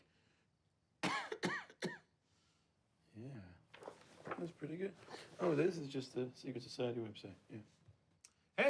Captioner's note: coughing